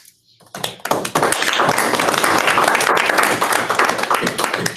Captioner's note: applause